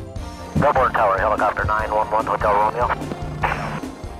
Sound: upbeat music; radio chatter

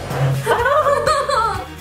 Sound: laughs

